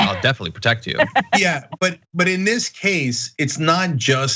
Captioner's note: laugh